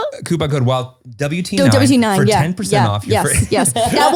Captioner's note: laughing